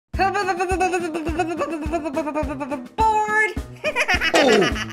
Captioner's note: laughs